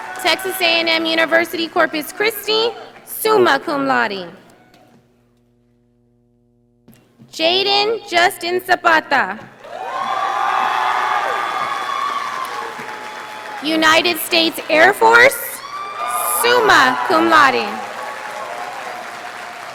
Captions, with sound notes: Texas A&M University Corpus Christi, summa cum laude. Jaiden Justin Zapata. (audience applauding) United States Air Force, summa cum laude.